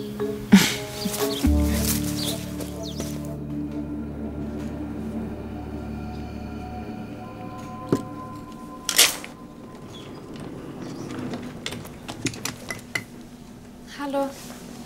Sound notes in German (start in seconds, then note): 0.5 Sie lacht; 3.8 Dunkle Musik; 8.3 Klacken